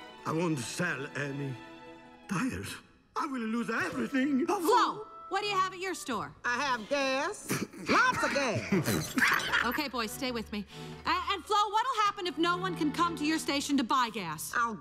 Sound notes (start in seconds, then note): 7.4 Mater and Ramone laugh; 8.4 Mater and Ramone snicker